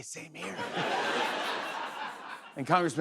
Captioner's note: laughter